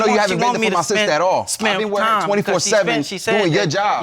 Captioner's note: none